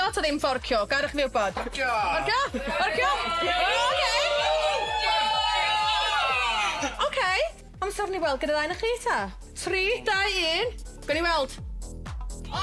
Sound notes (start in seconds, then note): 3.0 audience shouts